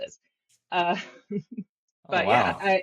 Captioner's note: laughs